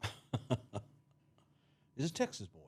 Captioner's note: chuckles